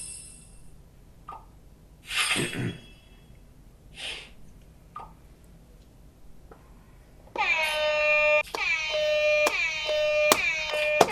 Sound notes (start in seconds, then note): 2.1 clears throat; 8.9 buzzer